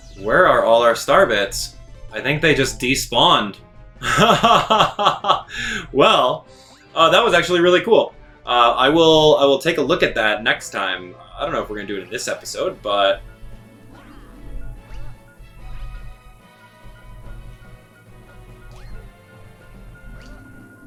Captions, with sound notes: Where are all our Star Bits? I think they just despawned. Well, that was actually really cool. I will take a look at that next time. I don't know if we're gonna do it in this episode, but... (bomb ticking) (rapid ticking)